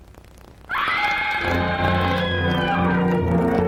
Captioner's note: scream